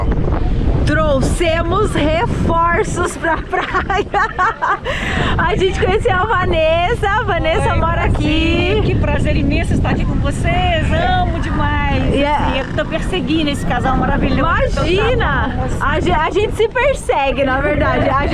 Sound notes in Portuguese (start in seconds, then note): 2.8 risos